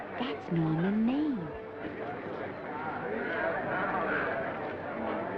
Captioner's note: attendees chattering